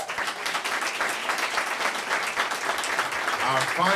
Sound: applause

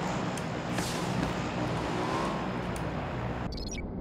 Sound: another motorcycle sound..?

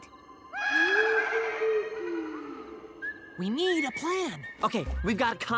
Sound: animalistic shouts

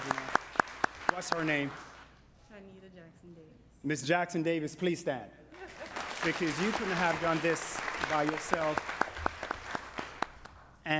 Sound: applause

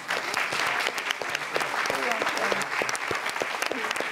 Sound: audience clapping

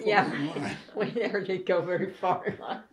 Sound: laughter

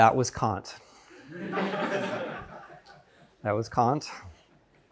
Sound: students laughing

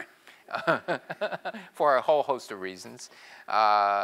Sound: laugh

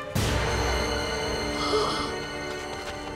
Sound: gasping

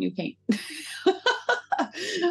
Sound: laughing

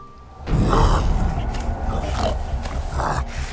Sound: grunting

